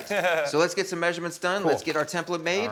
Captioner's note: chuckles